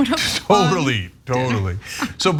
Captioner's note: laugh